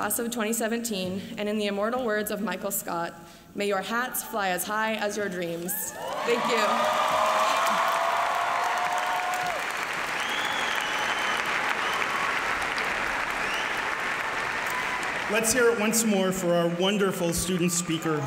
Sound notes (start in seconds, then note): 6.0 applause